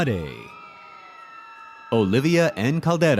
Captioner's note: audience cheers